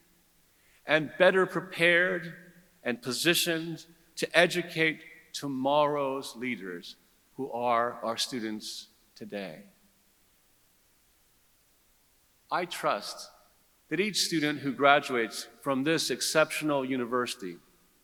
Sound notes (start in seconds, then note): none